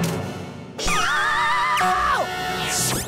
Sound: screaming

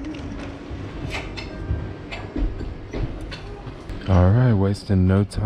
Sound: dishes rattling

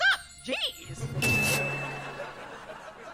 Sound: ding

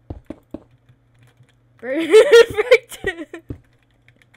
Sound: laughs

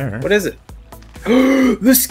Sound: joyful Gasp

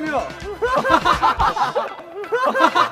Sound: laughing out loud

